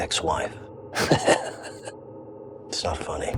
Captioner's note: chuckles